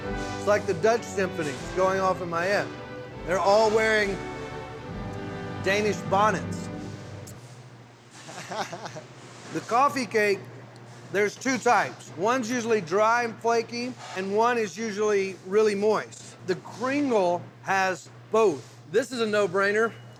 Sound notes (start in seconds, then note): 8.2 chuckling